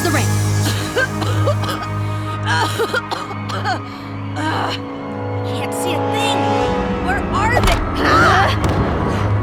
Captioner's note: coughing